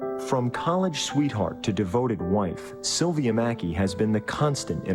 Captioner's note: voiceover